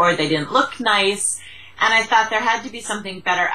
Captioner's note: Vietnamese